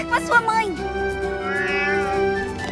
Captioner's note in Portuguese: leão miando